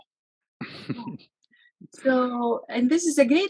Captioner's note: chuckles